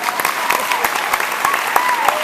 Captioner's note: applause